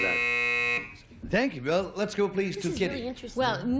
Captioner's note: buzzer